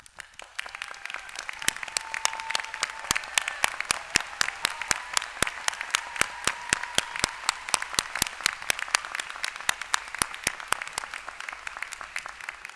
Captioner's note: applause